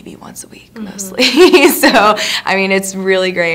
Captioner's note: laughingly